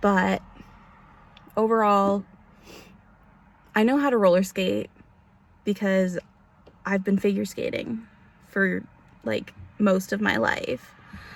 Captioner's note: sniffles